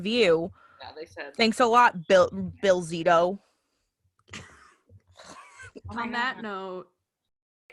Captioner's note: laughter